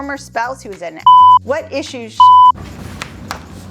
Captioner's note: beep; smacking lips